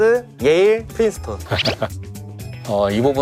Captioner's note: laughing